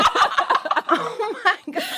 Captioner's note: laughter